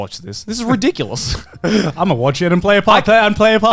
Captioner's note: Joey laughing